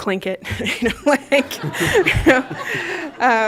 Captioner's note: laughter